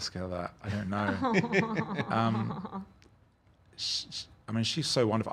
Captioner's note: laughing